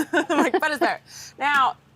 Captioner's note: laughs